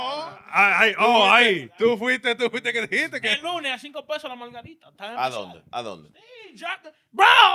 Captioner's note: speaking In Foreign Language